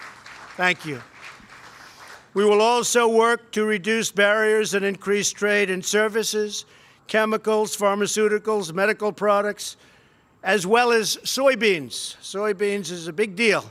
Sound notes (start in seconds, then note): 2.2 applause